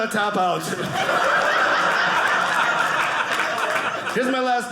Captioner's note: audience laughing